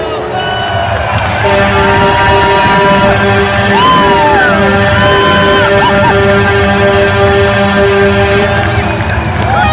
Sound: everyone booing; scores, fans cheer, goal horn and song play again

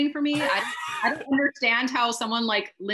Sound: panelists laughing

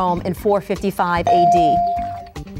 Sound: ding

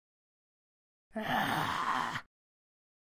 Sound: scary shout

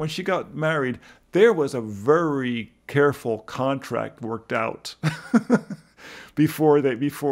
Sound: laughs

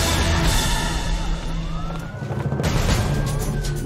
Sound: siren wails

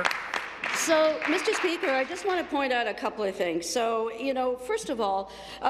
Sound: applause

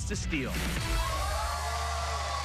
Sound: cheers and applause

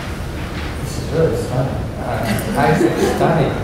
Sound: laughter

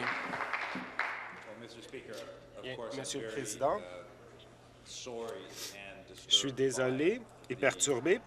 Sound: applause

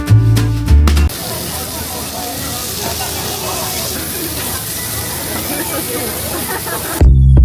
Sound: the sound of the pork being grilled is mouth-watering

